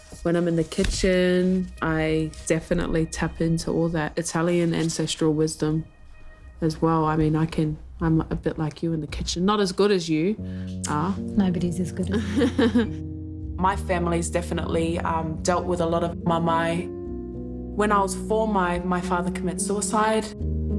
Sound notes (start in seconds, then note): 12.0 laughs; 20.5 calm music